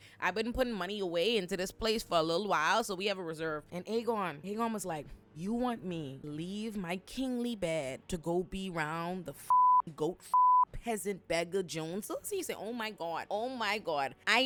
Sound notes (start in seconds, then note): 10.3 beep